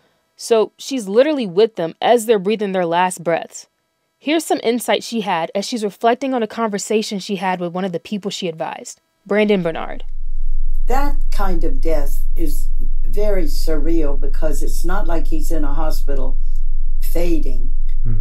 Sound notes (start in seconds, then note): 9.3 soundbite of archived recording